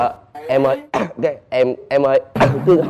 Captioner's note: cough